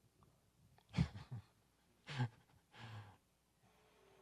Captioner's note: chuckles